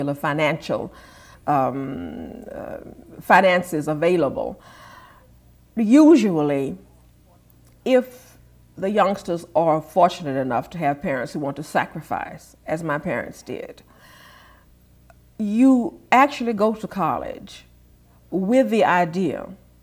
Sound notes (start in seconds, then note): none